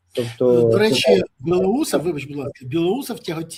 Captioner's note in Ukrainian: сопіння